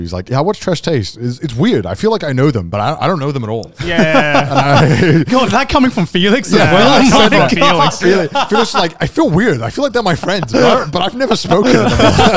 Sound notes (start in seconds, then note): 6.3 laughs; 12.1 all laugh